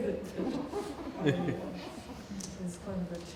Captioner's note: laughing